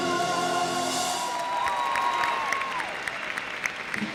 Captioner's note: applause